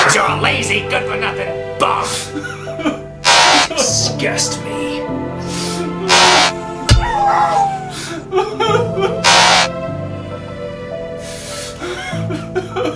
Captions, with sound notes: You're a lazy good for nothing bum. (Larry crying) You disgust me. (Thud) (Dog whimper)